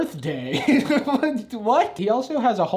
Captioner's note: laughs